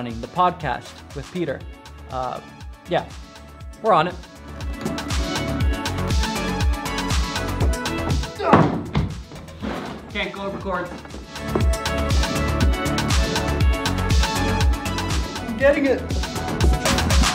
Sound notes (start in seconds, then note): 4.3 upbeat techno music; 8.5 thunk; 11.2 upbeat techno music